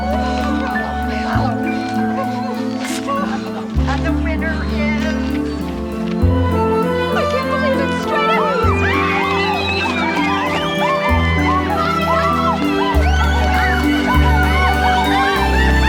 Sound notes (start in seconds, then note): 1.0 exclaiming in joy; 9.1 all cheering